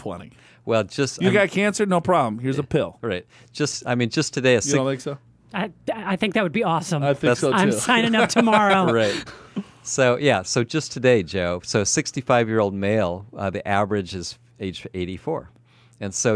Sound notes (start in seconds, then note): 9.4 laughs